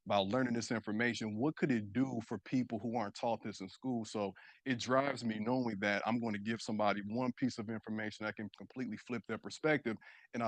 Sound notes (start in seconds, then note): none